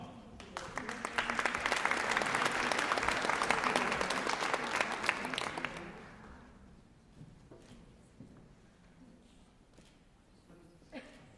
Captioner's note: applause